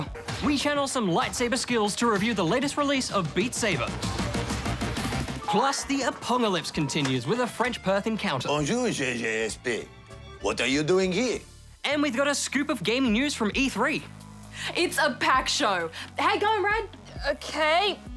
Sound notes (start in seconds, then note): 4.0 up-beat music plays; 8.6 french accent